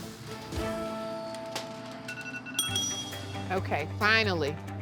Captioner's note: bell dings